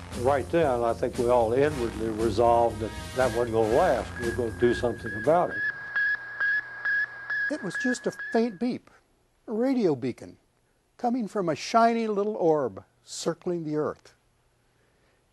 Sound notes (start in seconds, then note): 5.7 beep - Beep- Beep